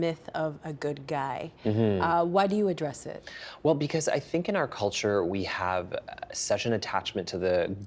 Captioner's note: laughing